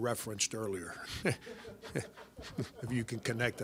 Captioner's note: crowd chuckling